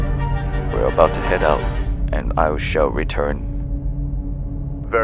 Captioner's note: imperial voice